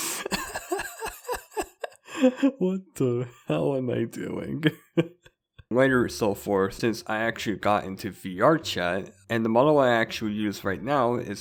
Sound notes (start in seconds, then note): 4.3 laughing